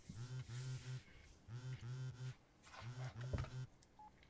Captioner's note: phone buzzing